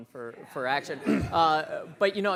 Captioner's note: people laughing